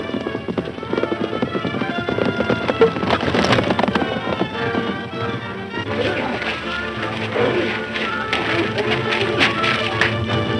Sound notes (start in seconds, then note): 5.8 men grunting